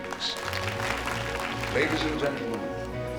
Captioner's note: applauding